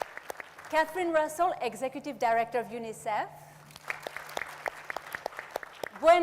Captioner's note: audience applauds